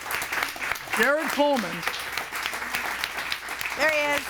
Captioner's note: audience applauds